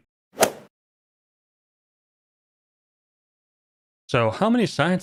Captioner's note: golf ball hit sound